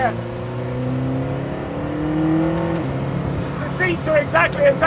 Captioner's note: engine roaring